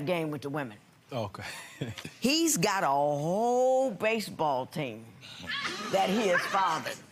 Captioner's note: laughs